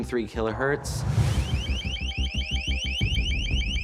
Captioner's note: loud chirping